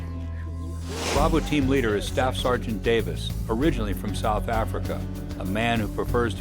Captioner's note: voiceover